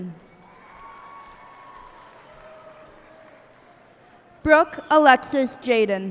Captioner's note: cheers and applause